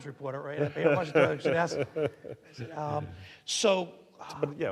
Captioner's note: laughing